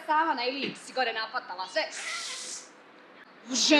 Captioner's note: inhales